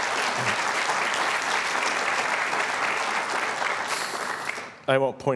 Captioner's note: applause